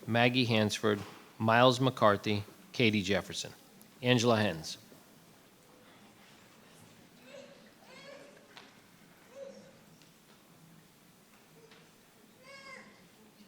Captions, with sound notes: Maggie Hansford, Miles McCarthy, Katie Jefferson. Angela Hens. (Baby frets)